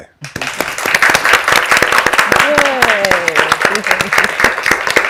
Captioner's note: participants applaud